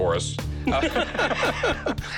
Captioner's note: laughter